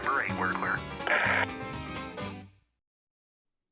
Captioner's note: static on radio